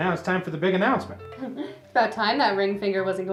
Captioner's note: Isabel chuckles